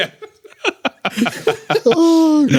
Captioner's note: laughing